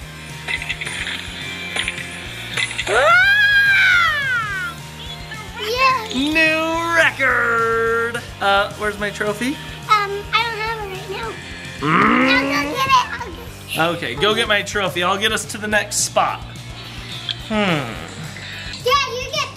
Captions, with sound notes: Aaaah! - Yahoo. - New record! Uh, where's my trophy? - Um, I don't have it right now. - (grunts) - I'll go get it, I'll get it. - Okay, go get my trophy, I'll get us to the next spot. Hmm.